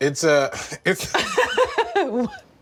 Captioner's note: laughs